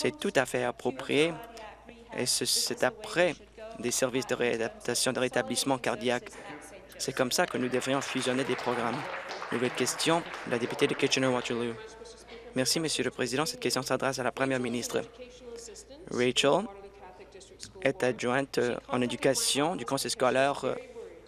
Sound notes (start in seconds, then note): 12.1 applause